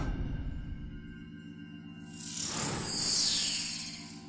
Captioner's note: whirring